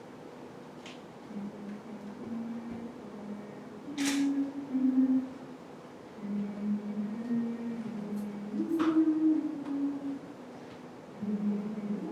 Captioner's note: hums